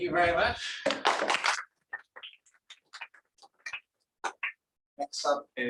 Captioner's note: applause